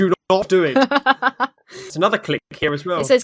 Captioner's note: laughs